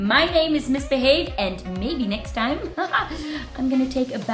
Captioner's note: chuckles